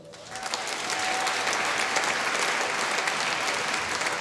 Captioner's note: applause